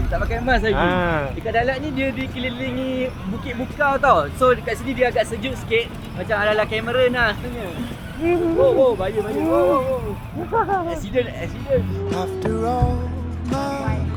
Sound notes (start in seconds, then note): 10.4 laugh; 12.1 background music